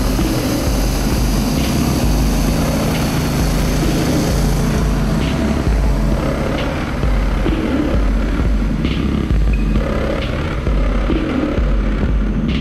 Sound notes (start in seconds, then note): 1.2 motor boat whirring